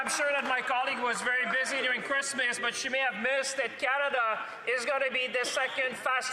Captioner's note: speaking French